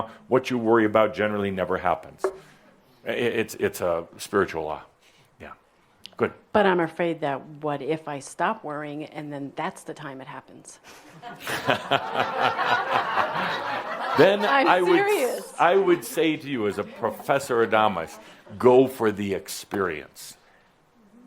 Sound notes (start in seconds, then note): 11.0 laughter